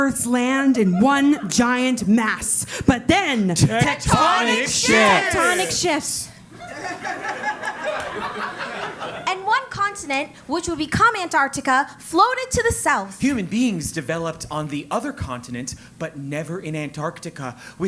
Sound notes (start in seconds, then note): 6.4 laugh